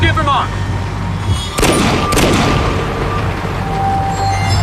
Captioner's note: gunshots